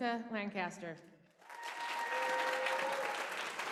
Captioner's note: applause